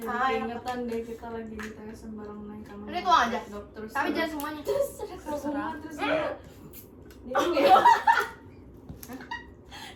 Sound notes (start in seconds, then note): 7.4 laughs